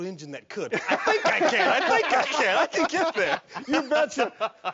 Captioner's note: all laughing